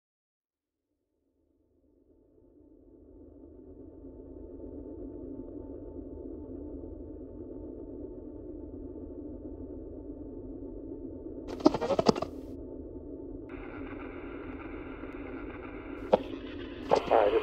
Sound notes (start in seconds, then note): 3.5 ambient music; 11.5 radio hissing; 13.7 radio static crackling